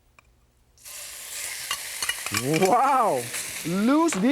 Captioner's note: pork sputtering